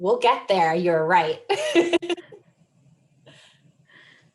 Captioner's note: chuckles